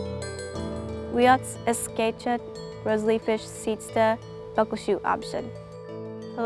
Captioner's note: speaking Native language